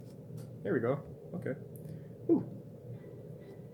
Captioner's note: phew